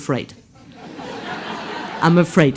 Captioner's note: laughs